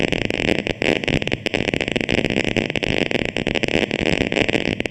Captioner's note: crackling